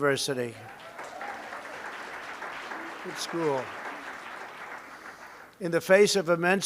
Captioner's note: applause